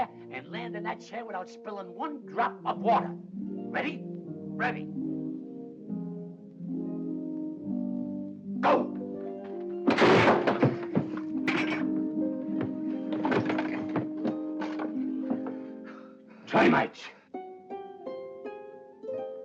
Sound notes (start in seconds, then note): 6.1 tuba and harp play; 9.8 wood snapping; 11.4 glass breaks; 13.3 thump; 17.3 tuba and harp play